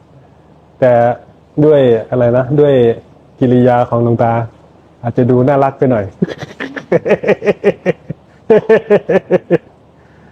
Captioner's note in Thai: เสียงหัวเราะ